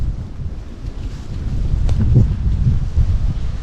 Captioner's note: wind